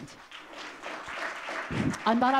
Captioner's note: audience clapping